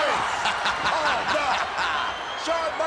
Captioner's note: Ted laughs